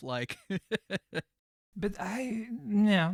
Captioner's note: laughs